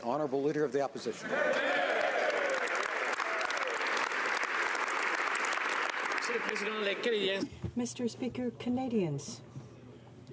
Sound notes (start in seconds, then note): 0.6 speaking French; 4.3 some Applause